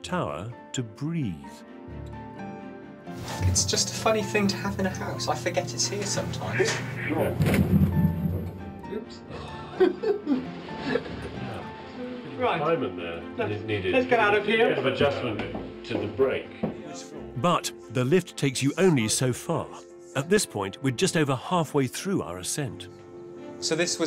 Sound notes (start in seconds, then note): 6.9 automated voice; 9.4 laughs